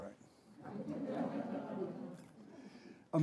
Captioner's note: audience laughing